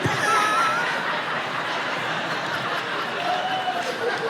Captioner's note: laughs